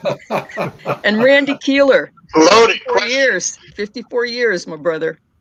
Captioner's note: laughter